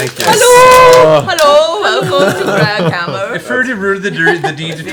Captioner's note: same accent; imitates the Swedish Chef